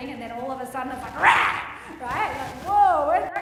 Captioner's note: roars